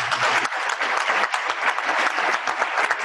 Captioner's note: applause